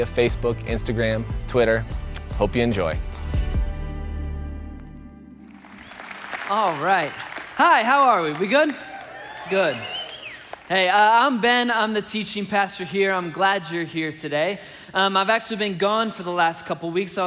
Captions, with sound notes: Facebook, Instagram, Twitter. Hope you enjoy. (congregation applauding) - All right. Hi, how are we, are we good? (congregation cheering) Good. Hey, I'm Ben, I'm the teaching pastor here. I'm glad you're here today. I've actually been gone for the last couple weeks.